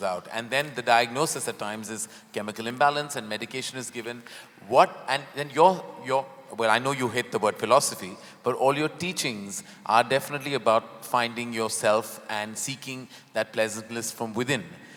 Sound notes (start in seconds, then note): none